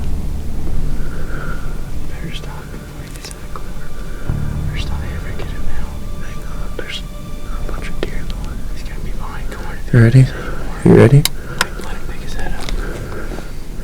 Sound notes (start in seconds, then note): 0.0 light wind, soft music; 1.3 whispered voices; 12.0 whispered voices